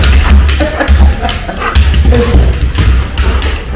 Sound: laughs

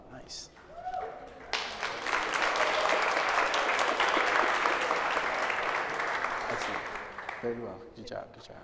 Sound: applause

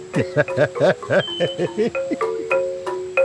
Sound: he laughts

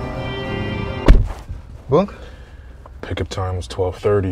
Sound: door banging

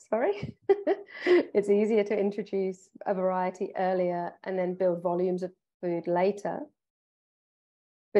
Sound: chuckle

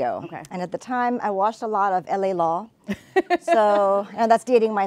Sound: laughing

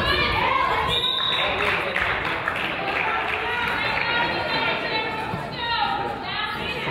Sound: whistle blows; crowd applauds

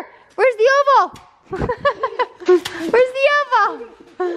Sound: laughs

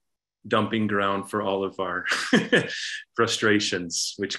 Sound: laughs

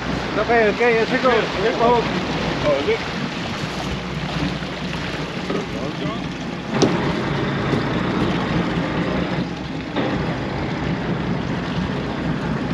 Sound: boat engine running

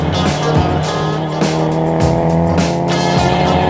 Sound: upbeat funky music; engine revving; upbeat funky music

